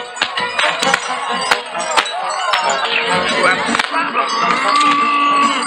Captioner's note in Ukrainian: оплески